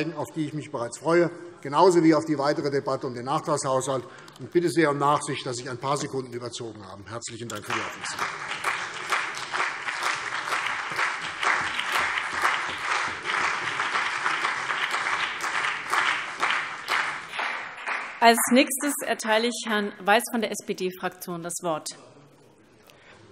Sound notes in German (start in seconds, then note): 7.5 Beifall CDU und BÜNDNIS 90/DIE GRÜNEN